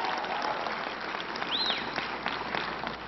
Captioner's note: applause